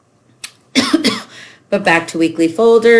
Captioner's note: coughing